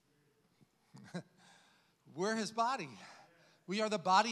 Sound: chuckles

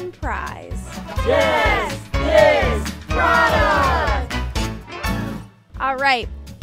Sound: crowd

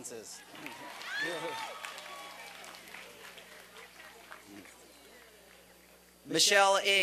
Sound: applause and cheering

